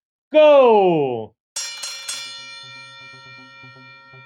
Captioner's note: bell ringing